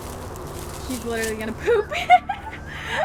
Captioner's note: laughs